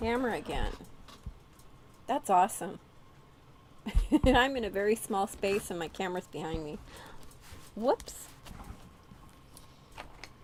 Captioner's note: giggles